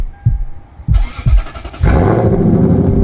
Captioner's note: V8 Starts